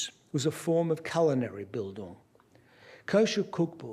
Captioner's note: non-english speech